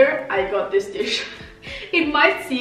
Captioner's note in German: laughs